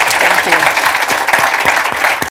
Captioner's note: applause